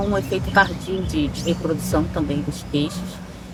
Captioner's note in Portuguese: som de pássaros e música ao fundo